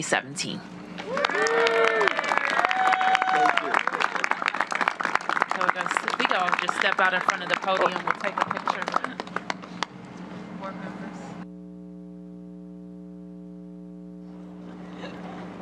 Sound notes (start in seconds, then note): 5.7 applause